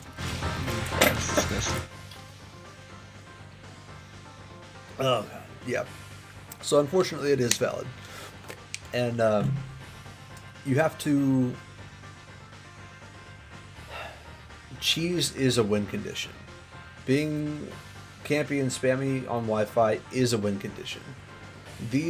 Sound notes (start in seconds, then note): 13.9 sigh